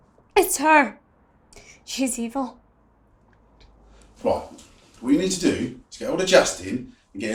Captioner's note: none